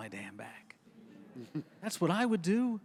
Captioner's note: audience chuckles